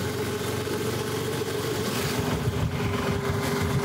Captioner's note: tuk Tuk noise